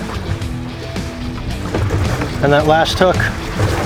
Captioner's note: water splashing